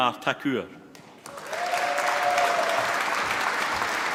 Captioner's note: applause